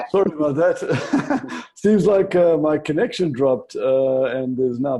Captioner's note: chuckles